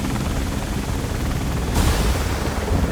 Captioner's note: gas venting